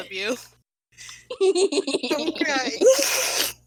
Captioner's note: gremlin laughter